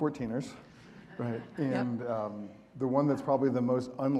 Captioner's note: audience laughing